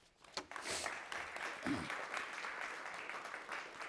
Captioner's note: audience applauding